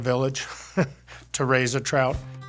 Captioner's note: laughs